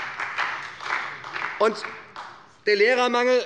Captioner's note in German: Beifall bei der SPD